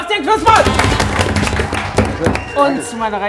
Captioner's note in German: Jubel